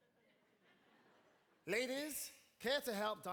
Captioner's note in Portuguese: audience laughing